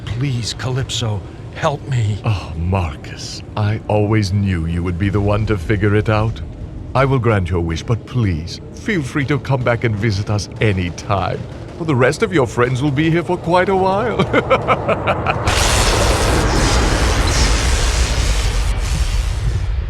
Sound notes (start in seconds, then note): 13.6 laughs